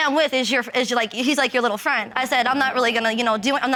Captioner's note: stammering